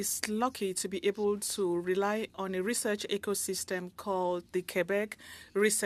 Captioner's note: speaking French